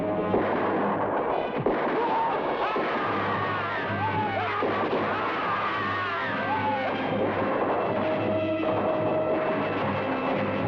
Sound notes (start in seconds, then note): 2.8 men shout; 3.4 man shouts; 4.3 gunshots blast